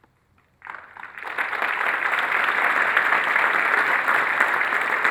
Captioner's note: audience applauds